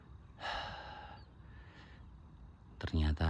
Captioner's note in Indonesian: menghela napas